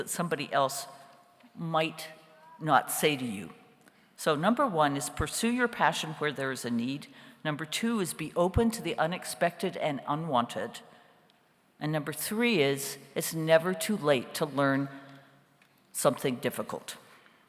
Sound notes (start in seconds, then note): none